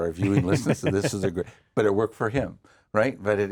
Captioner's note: laughing